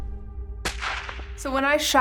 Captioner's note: gun fires